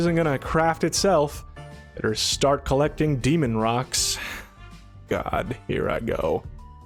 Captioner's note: sigh